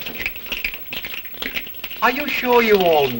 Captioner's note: fingers snapping